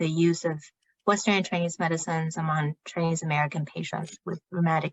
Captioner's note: speaking chinese